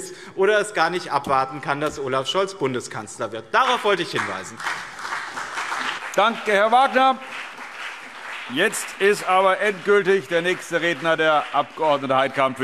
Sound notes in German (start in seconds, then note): 5.0 Beifall BÜNDNIS 90/DIE GRÜNEN und CDU